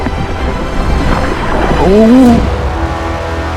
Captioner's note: underwater sounds